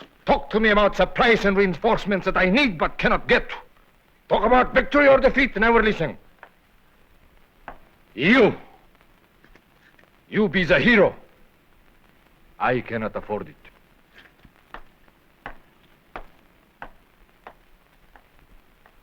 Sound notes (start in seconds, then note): 13.6 footsteps receding